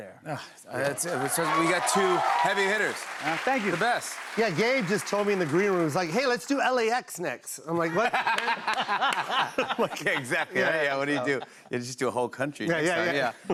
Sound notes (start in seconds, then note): 0.9 cheers and applause; 7.8 laughter